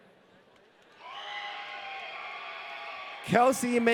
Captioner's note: audience cheering